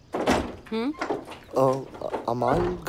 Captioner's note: Door opening